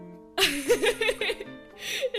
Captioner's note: laughs